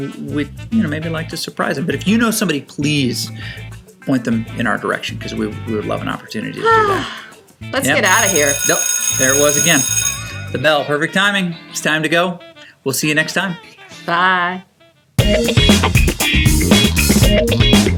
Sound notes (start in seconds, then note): 6.6 sighs; 8.0 school bell rings; 15.2 funky upbeat music